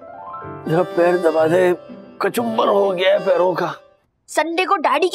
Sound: none

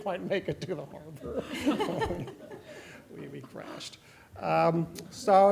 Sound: laughter

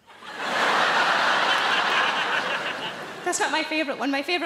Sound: audience laughing

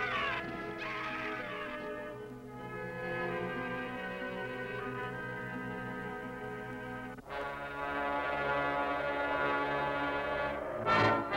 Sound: screaming

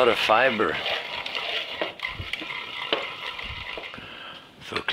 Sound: food mill whirring

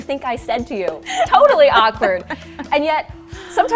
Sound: laughs

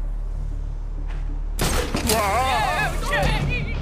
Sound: grappel sound

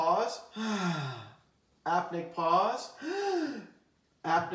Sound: inhales; exhales; inhales

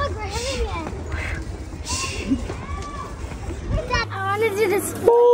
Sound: dad panting

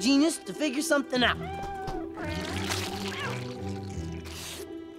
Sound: meowing

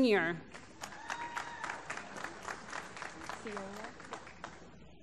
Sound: applause

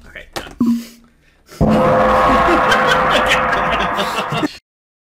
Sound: gong

